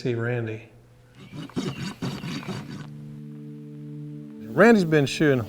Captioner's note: rasp scratching